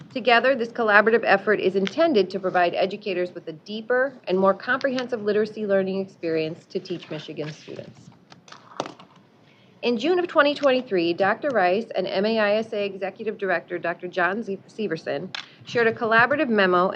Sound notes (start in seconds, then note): none